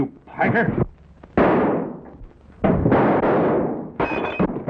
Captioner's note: guns firing